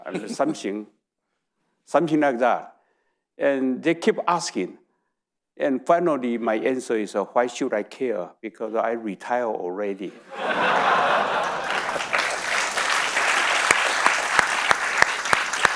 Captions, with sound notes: Something, (audience chuckling) something like that. And they keep asking. And finally, my answer is, "Why should I care? Because I retire already." (audience laughing) (audience applauding)